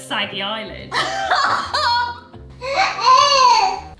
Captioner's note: laughs; vocalizes